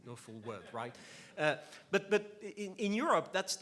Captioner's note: laughs